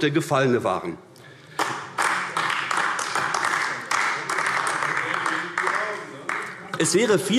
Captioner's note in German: Beifall AfD